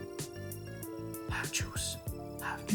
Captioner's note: whispers; speaker beeps